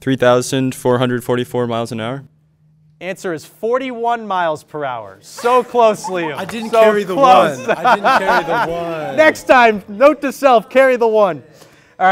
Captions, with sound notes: - 3,444 miles an hour. - Answer is 41 miles per hour. So close, Liam. (laughter) So close. - I didn't carry the 1. (laughter) I didn't carry the 1. - Next time, note to self, carry the 1.